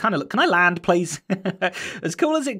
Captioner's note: chuckles